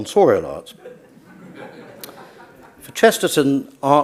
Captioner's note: audience laughs